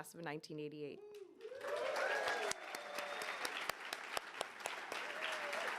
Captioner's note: audience applauding